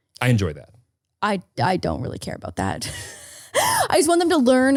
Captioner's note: laughing